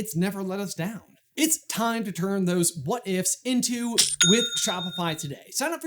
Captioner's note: cha-ching!